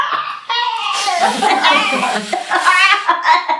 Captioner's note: they laugh